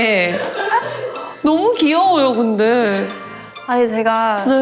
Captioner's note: bursts into laughter